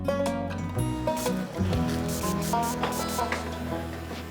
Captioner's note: light music playing; spray hissing